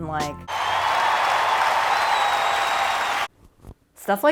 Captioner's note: applause and cheering